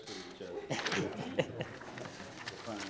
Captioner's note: laughing; murmurs